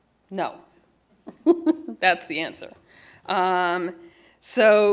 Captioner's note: laughter